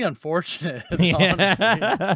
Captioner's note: man laughs